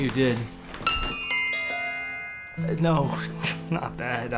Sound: bells ringing

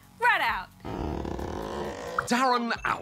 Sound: squeaks

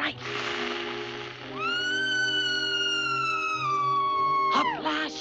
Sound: cloud screams

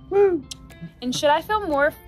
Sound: kisses

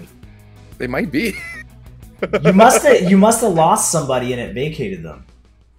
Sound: laugh

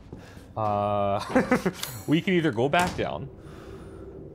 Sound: laughs

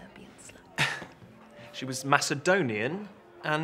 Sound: chuckles

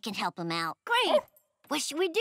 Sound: barking

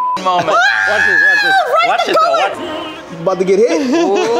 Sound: beep; screams; laughs

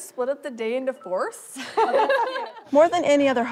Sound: laughter

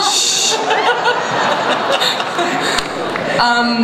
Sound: laughter

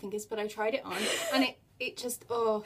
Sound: laughs

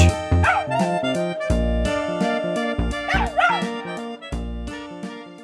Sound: howling

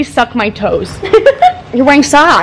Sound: MC laughs

